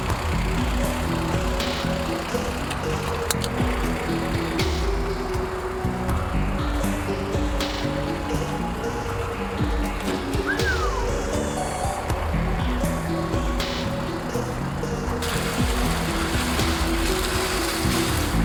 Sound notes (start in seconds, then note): 0.6 ominous tempo music; 10.4 Thug whistling